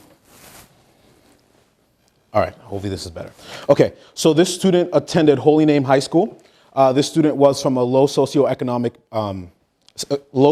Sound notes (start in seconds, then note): none